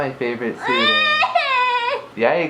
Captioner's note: cries